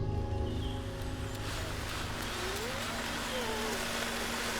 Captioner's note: contemplative music fades; water sloshing